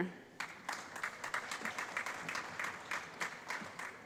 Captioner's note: applause